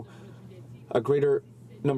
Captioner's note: speaking french